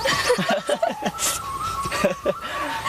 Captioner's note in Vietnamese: tiếng cười